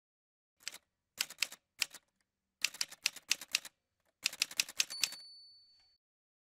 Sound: typewriter sounds

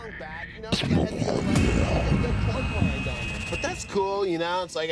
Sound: dramatic music; stomach grumbling evilly

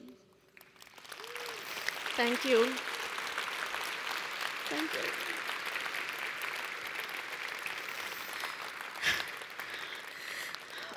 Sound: applause

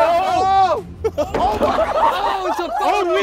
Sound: contestants yelling; board banging

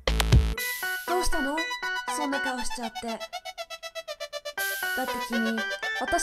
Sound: rhythmic music; speaking in foreign language

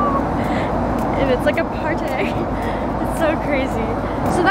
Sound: laughs

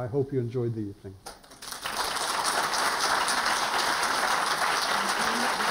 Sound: applause

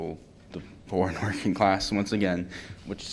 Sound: laughter

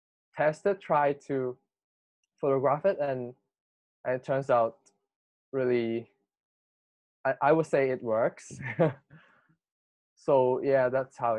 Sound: laughs

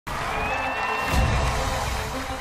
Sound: cheers and applause

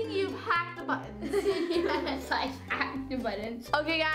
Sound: laughs

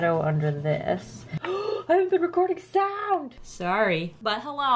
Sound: gasps

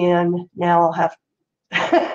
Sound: laughs

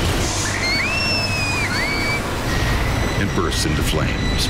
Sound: people screaming

